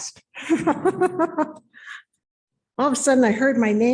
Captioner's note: laughing